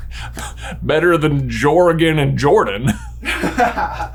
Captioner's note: chuckling